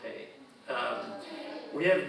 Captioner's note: audience chuckling